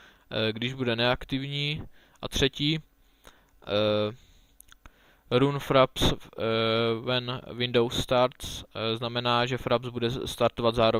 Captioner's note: translates into czech